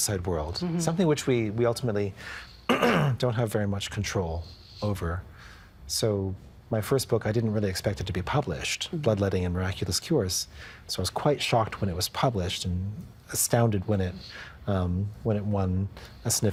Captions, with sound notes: Something which we ultimately... (Clearing throat) ...don't have very much control over. So my first book, I didn't really expect it to be published. Bloodletting & Miraculous Cures. So I was quite shocked when it was published. Astounded when it won a significant prize,